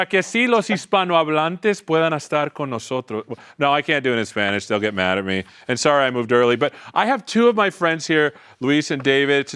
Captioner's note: speaking spanish